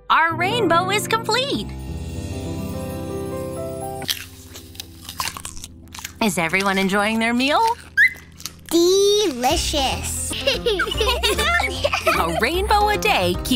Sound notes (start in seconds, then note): 4.0 chewing sounds; 8.0 chirps; 10.2 giggling